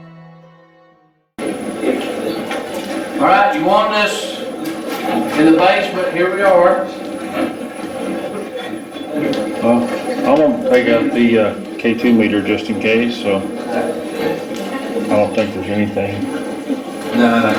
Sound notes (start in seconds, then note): 1.8 static playback transmitting; 7.2 static playback transmitting